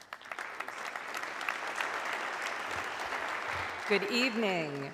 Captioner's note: audience clapping